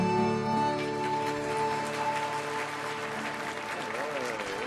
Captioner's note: audience applauding